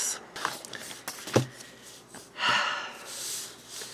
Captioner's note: sigh